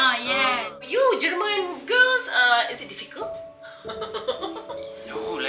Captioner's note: laugh